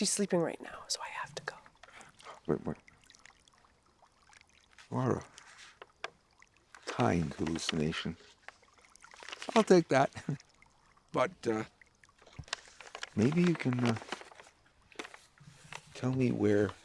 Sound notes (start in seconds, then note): none